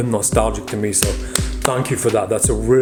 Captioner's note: clapping